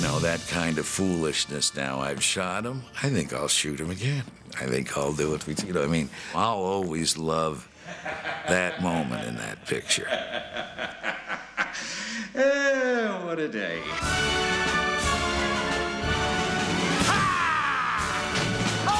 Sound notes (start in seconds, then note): 10.2 cackling; 16.7 man shouting